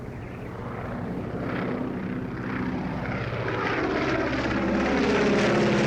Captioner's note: plane engine roaring